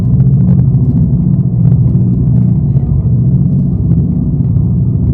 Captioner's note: loud droning static